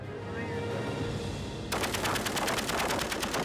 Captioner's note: machine gun shots